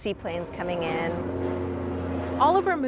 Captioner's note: sea plane buzzing